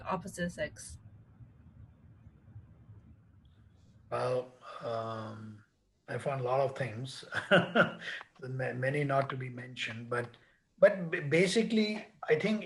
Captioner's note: laughs